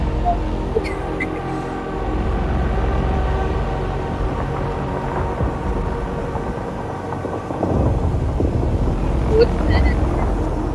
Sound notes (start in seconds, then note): 0.7 laughs; 1.7 we awkwardly stop talking as the game audio gets louder dramatically